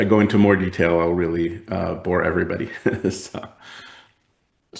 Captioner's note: laughs